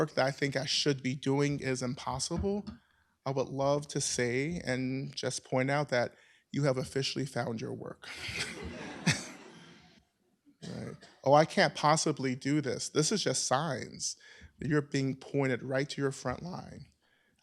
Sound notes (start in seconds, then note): 8.1 laughter